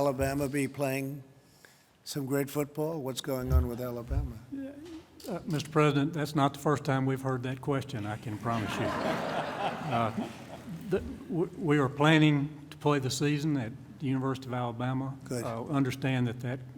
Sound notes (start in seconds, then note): 8.3 laughter